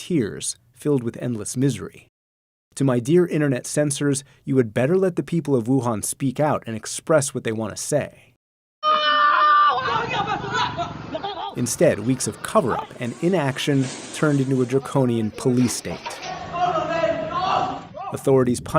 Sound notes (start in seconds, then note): 8.8 woman screaming; 10.4 screaming in foreign language; 17.1 screaming in foreign language